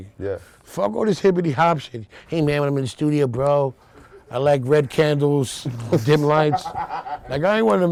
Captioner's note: nerdy voice